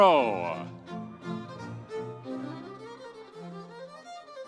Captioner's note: audience cheering